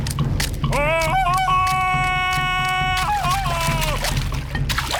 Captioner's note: bellows like tarzan